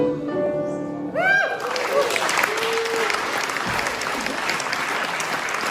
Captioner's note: cheering and applauding